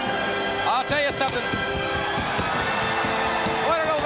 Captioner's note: crowd cheering